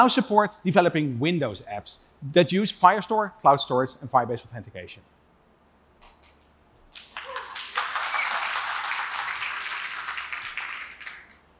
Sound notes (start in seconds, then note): 6.9 applause; 7.0 cheering